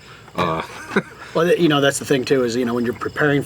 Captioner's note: laughs